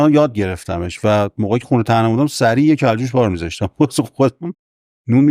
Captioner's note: laughs